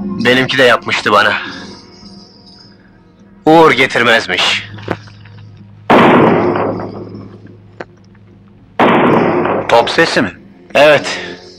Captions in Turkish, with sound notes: Benimki de yapmıştı bana. Uğur getirmezmiş. [Uzaktan gürlemeler] - Top sesi mi? - Evet!